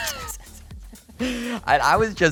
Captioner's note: both laughing